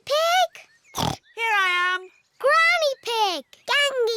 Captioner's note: snorts